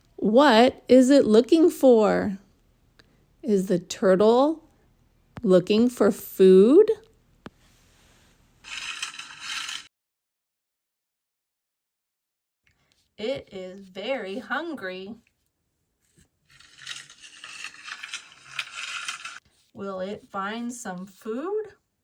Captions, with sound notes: What is it looking for? Is the turtle looking for food? (paper rustles) It is very hungry. (paper rustles) Will it find some food?